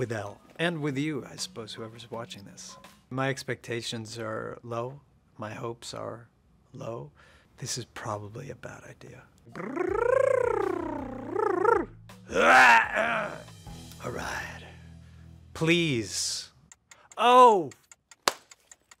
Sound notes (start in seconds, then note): 9.5 trilling; 12.3 growling; 16.6 timer ticking